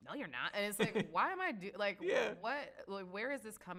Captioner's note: laughs